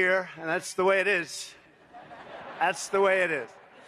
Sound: laughter

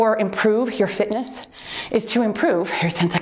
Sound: timer beeps

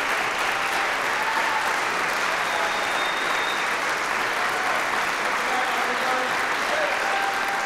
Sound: applause; applause, cheering; applause

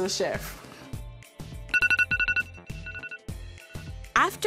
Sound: pinging

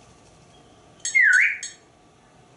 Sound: whistling

